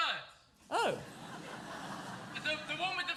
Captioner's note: audience laughs